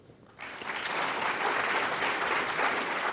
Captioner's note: clapping